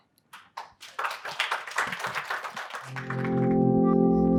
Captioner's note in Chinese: 鼓掌